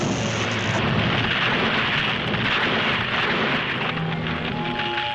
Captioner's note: debris clatters